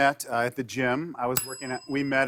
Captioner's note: ding